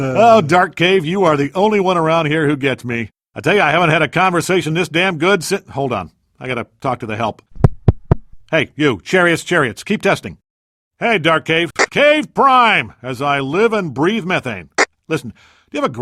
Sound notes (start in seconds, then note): 8.5 tap tap tap